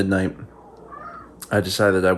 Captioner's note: meowing